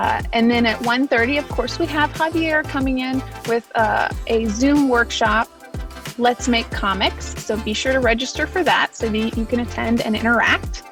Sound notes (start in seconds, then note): none